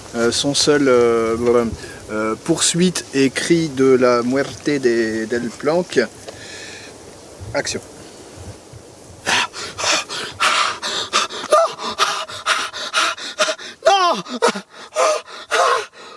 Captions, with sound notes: Ok so we're recording the rest of Delplanque's death. Action! (breathing sound) Noooo!